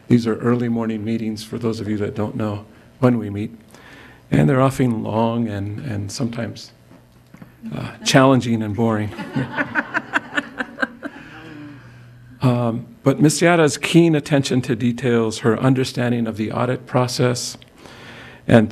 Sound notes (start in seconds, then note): 9.1 crowd laughing